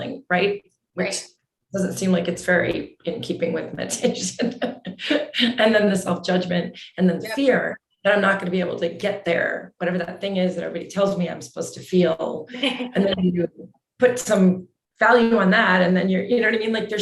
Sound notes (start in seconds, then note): 5.0 chuckles